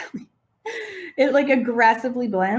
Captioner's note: chuckles